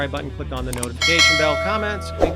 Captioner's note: bell rings